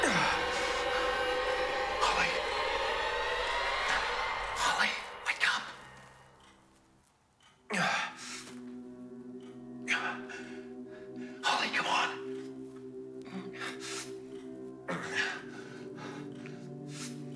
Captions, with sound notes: (Mark grunting) - Holly? Holly? Wake up. (ominous music) Holly, come on. (grunting)